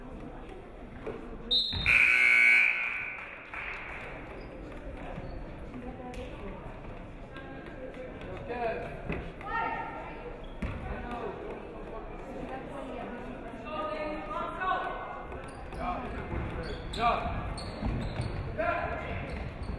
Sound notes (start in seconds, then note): 1.8 buzzer buzzes